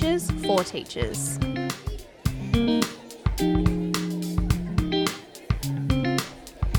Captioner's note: crowd chatters indistinctly; light music